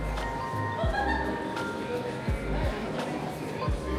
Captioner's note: bell ringing